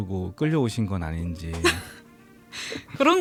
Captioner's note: laughs